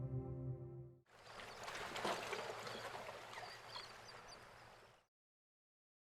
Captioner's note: water splashing; birds chirping